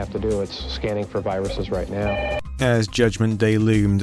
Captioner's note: phone rings abruptly